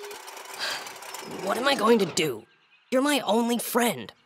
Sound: sighs

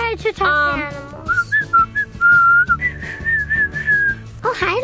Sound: whistling

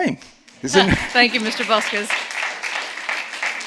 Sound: audience clapping

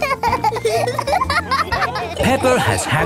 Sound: laughing

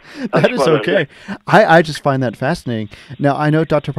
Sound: laughs

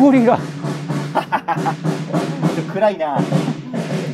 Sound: laughing

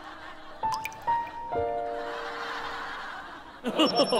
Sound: choking up

